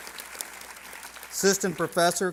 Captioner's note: applause